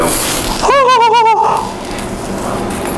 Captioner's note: happy sounds